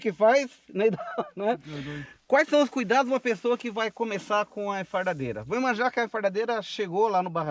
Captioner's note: laughs